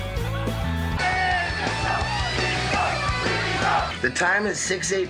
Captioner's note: cheering STEVE-O STEVE-O